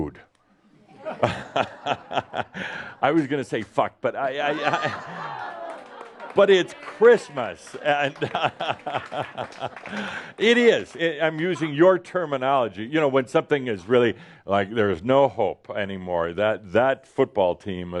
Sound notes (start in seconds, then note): 0.8 laughter; 4.2 more laughter and applause